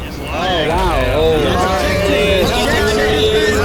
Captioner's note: booing